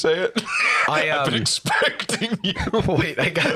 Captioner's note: laughing